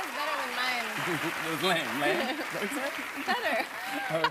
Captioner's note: normal voice